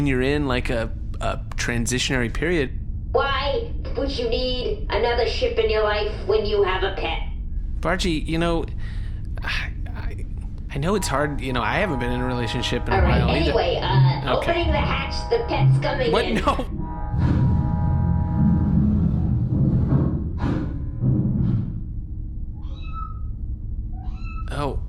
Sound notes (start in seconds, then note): 13.5 Bargie’S hull alarm goes off; 19.2 a tiny meow comes from the hull; 24.0 more meows